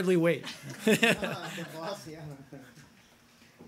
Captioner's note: laughter